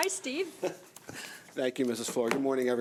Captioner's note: chuckling